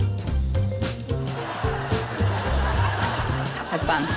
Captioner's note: laughter